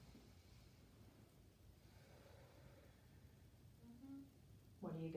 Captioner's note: breathing deeply